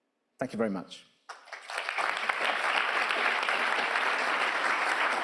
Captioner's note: audience applauding